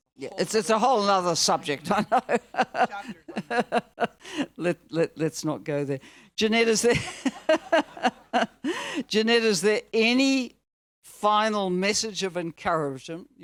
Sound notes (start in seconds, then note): 1.6 laughs; 6.8 all laughing